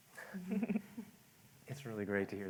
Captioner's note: laughter